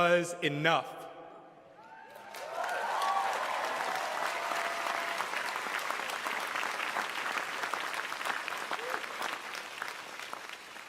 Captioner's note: cheering and applause